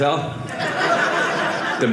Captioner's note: audience laughing